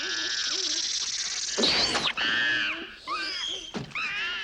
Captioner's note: shrieking; hissing; shrieking